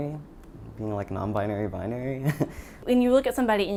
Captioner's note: laughs